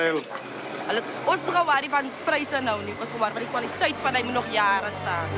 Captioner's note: speaking foreign language